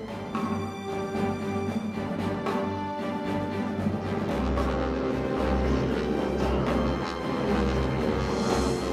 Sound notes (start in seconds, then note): 0.1 uplifting music; 3.6 airplane engine buzzing